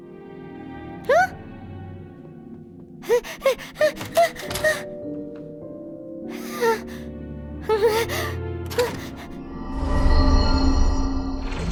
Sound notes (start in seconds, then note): 3.0 panting frantically; 5.8 panting